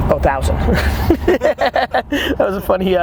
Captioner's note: Gary laughing